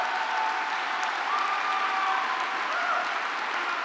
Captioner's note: applause